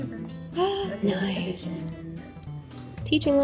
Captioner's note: gasps